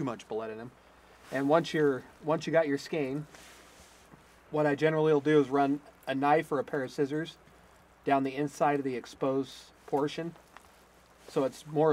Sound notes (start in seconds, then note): none